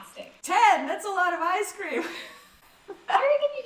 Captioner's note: laughs